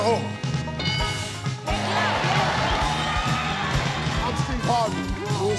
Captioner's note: audience cheering